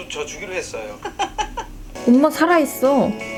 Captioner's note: hahahaha!